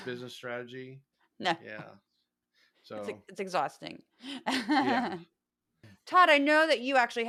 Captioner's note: laugh